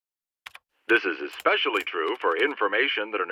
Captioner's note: computer voice